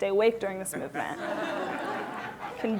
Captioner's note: laughter